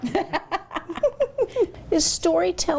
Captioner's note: both laughing